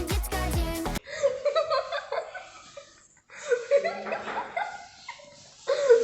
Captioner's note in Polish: śmiech